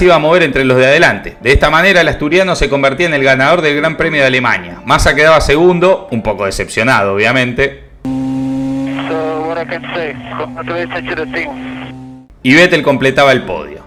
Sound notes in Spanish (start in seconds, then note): 10.5 radio